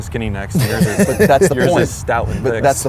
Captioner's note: laughs